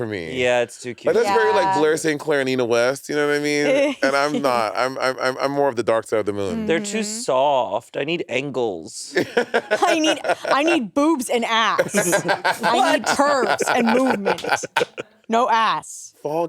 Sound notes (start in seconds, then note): 3.7 chuckling; 9.2 Monét laughing; 11.7 laughing